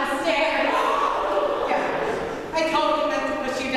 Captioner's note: cumulative gasp